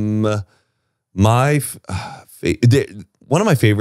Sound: sighs

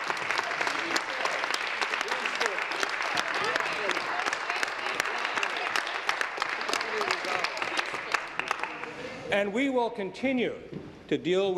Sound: applause

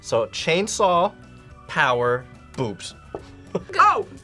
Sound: laughs

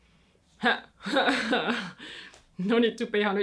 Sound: chuckles

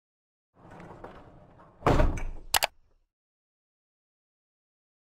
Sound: bump and click

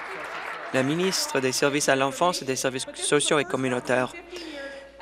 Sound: applause

